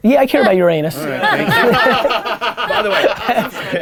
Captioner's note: laughter